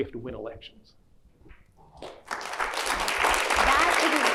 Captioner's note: clapping